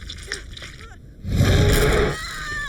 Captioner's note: flesh squishing; shark growling; shark roaring; Paige screaming; teeth crunching